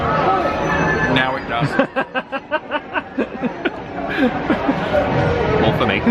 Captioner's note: laughing